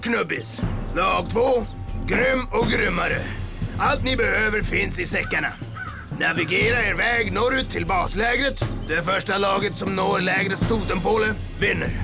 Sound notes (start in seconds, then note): none